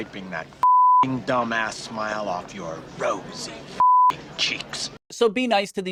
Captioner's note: beep; beep